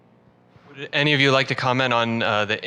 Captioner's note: voiceover